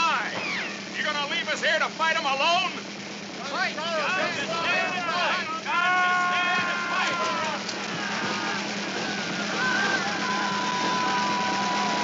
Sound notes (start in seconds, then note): 8.7 soldiers shouting